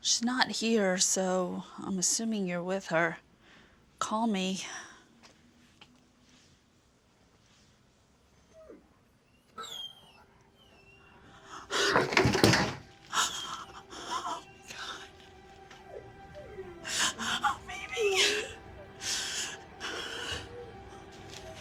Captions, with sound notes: She's not here, so I'm assuming you're with her. Call me. (dog whining) Oh my God. (dog whining) Oh, baby. (dog whining)